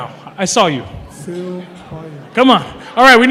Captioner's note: non-english speech